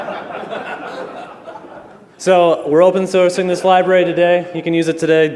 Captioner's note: laughter